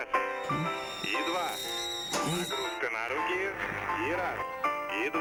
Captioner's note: kettle whistling